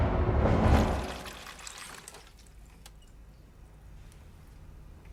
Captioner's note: water running